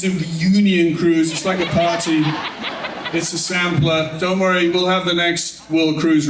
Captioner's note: laughing